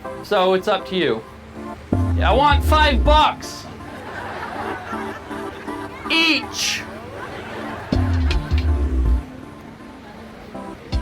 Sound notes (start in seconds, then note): 3.6 audience laughing; 7.9 thrilling music